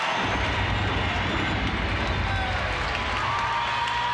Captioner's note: crowd cheers; thunder crashes